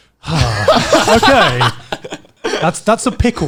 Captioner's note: laughing